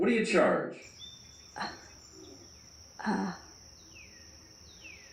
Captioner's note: disembodied Voice; crickets chirping